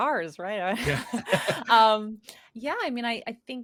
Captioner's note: chuckles